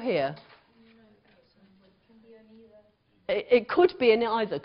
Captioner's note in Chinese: 無聲